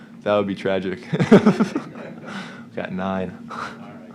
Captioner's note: laughter